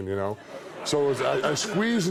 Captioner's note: audience laughs